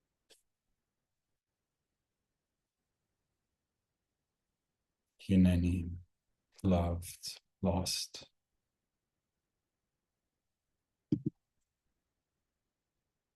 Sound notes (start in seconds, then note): 5.5 in Hebrew